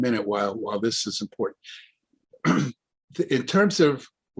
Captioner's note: clears throat